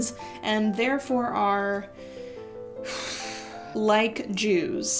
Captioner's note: sighs